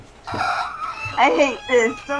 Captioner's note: caterwauling